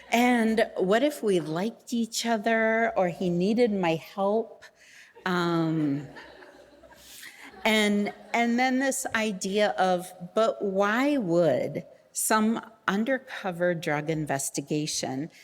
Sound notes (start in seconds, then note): 5.7 audience laughing